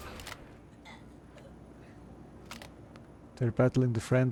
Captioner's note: gun firing